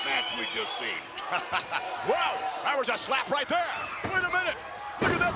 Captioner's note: laughs